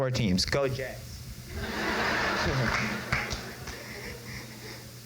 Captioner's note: crowd laughs